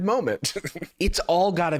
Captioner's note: chuckles